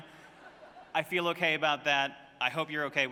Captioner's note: laughter